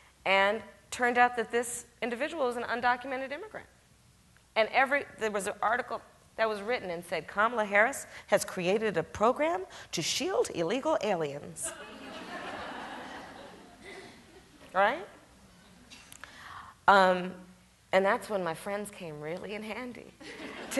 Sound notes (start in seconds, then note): 11.7 audience chuckles